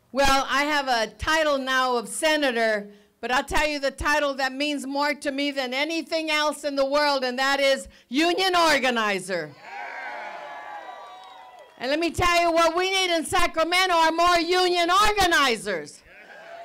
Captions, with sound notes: - Well, I have a title now of Senator but I'll tell you the title that means more to me than anything else in the world. And that is union organizer. (group cheers) And let me tell you what we need in Sacramento are more union organizers